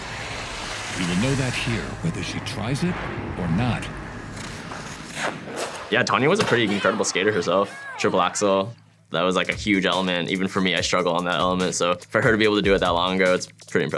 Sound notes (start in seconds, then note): 4.2 skate stroking